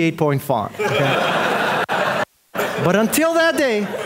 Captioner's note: audience laughing